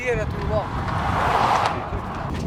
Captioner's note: car whooshing